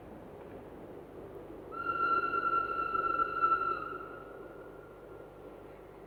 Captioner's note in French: Un train siffle